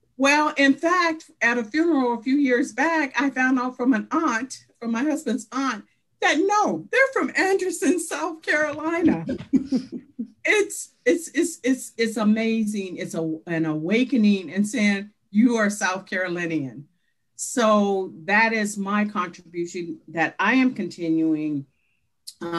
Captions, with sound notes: Well, in fact, at a funeral a few years back, I found out from an aunt from my husband's aunt, that no they're from Anderson, South Carolina. (laughing) It's amazing, it's an awakening in saying you are South Carolinian. So that is my contribution that I am continuing to add.